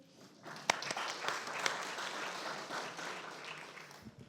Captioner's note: audience applauding